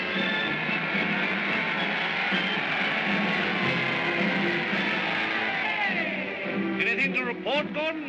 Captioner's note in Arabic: هتافات الجمهور; موسيقى منتصرة